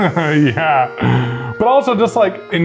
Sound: laughs

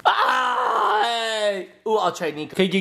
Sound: dad makes disappointed noise

